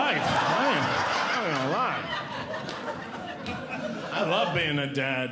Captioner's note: audience Laughing